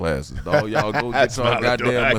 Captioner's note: laughing